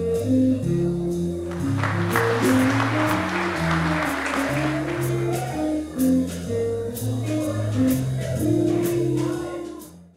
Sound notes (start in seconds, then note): 1.4 audience clapping while music continues; 4.8 background jazz music plays with ambient crowd noises